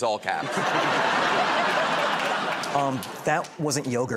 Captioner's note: laughter